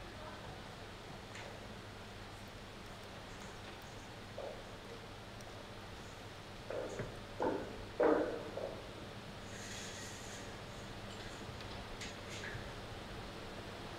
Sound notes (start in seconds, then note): 7.2 walking noise